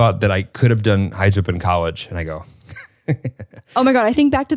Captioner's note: giggles